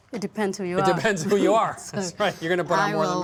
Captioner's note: chuckling